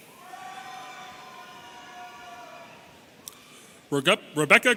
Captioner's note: audience cheering